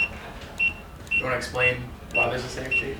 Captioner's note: beeping